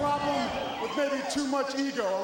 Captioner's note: crowd cheering